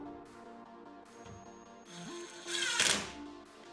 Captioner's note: drill whirring